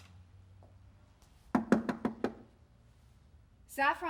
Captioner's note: knocking